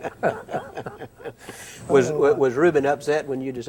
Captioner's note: both chuckle